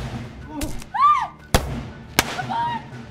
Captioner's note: gunshots popping; Mabel shrieks; Graham wails; gunshots popping